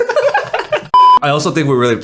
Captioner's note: beep